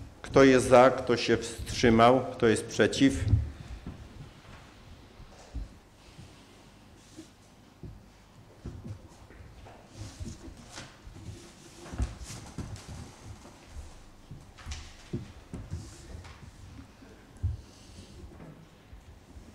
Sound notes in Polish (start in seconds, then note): 4.4 brak głosów z sali